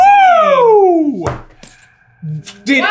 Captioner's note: squeak